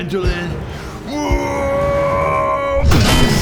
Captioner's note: wrrrrrrrrrrrrrggghghhhhhhhhhhhhhhh; clang